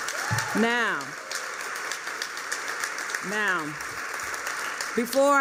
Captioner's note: applause